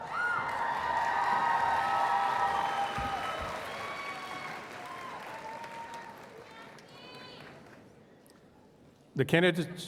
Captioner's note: applause and Cheers